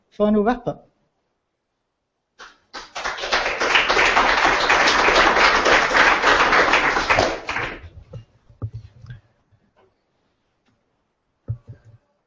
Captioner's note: applause